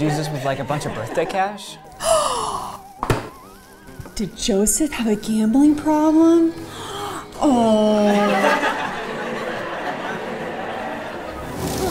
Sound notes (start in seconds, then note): 1.9 gasps; 8.0 class laughs